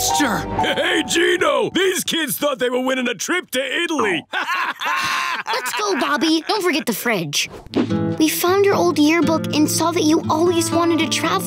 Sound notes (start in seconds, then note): 4.0 laughing